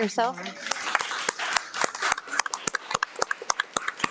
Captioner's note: everyone applauds